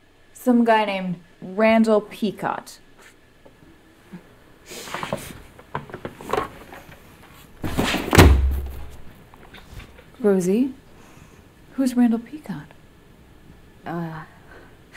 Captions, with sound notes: Some guy named Randall Peacot. (book thuds) - Rosie, who's Randall Peacot?